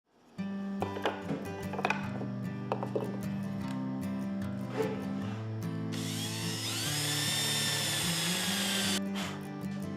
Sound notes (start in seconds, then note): 5.9 drill whirring; 9.0 breath blown